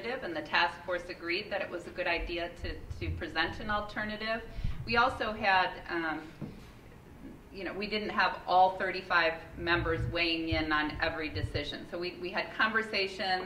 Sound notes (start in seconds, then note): none